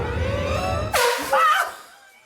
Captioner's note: air horn blast